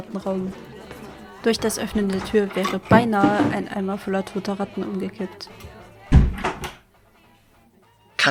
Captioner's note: the noise of voices becomes faint through the closed door